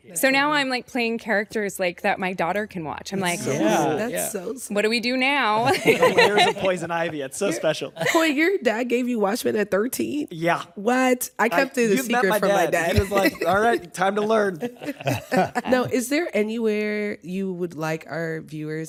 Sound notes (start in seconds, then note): 4.1 chatter; 5.6 laughs